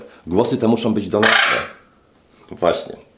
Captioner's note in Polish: papuga wydaje głośny dźwięk